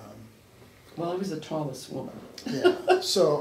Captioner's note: laughs